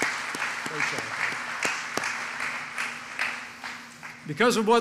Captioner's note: applause